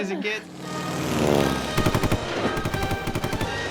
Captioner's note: plane zooming; gunfire; adventurous music